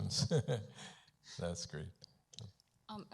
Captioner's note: chuckles